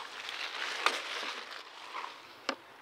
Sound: scuffle, scrunch, scrunch

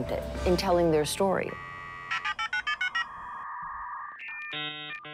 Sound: dial-up modem noises

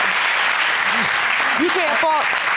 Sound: audience applauding

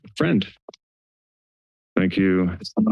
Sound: silence

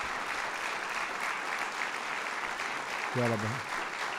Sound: applause

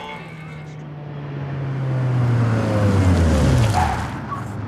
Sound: engine whirs; tires squeal

